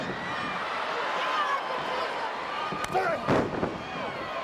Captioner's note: crowd chattering